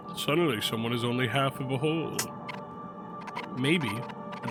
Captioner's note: none